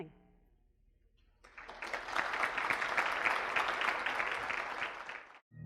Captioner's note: audience applauding